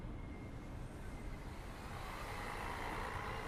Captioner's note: sonido tráfico